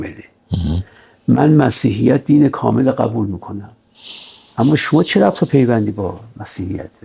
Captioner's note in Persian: صدای خرناس